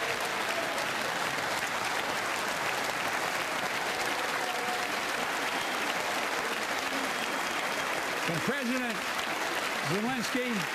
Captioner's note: applause